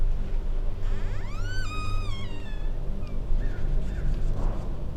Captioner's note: door creaking